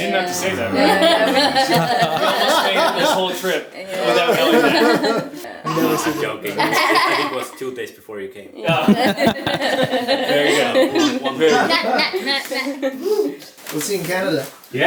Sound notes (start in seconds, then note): 8.6 laughing